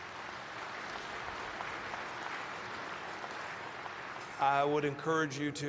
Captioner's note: applause